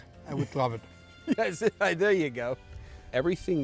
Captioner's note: laughs